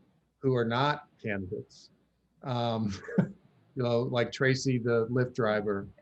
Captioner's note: laughs